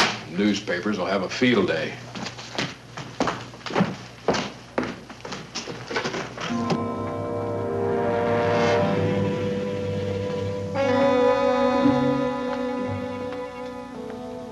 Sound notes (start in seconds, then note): 2.0 Chasen's footsteps; 6.5 ominous music